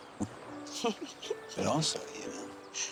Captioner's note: both laugh